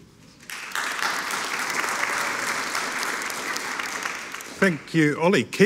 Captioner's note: audience applauding